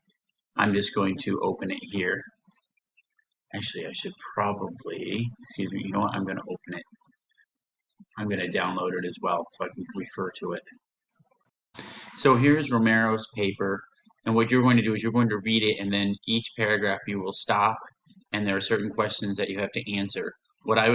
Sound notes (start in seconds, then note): 11.8 silence